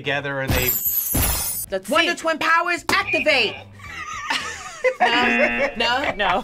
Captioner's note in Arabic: يضحك